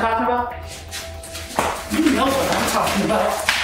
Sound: footsteps shuffling

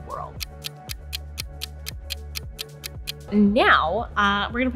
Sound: clock ticking

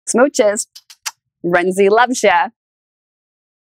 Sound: kissing

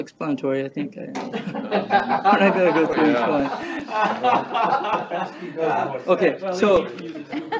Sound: all laughing, chattering

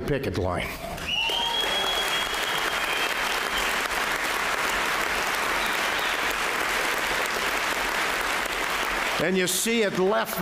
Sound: applause

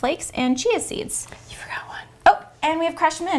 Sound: whispering

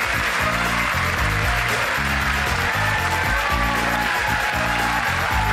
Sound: audience applause; upbeat music

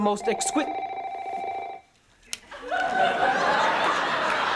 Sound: phone ringing

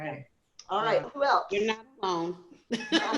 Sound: laughter

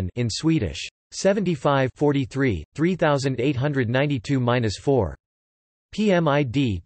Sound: in Swedish

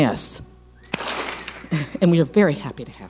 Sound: clap smack

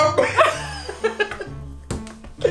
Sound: laughs; everyone laughs

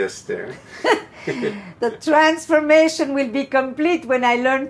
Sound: laughing

